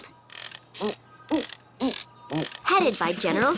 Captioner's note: imitate military band